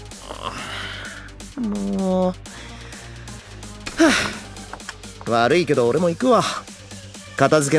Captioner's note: yawns